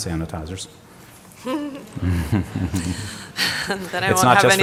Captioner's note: laughter